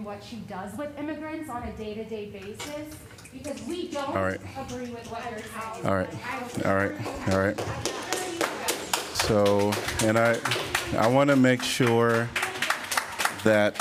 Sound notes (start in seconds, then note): 6.3 applause